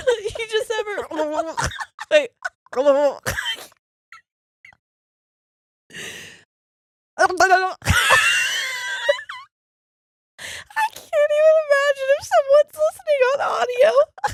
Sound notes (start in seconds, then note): 3.2 laughing